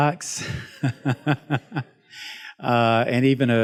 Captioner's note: laughs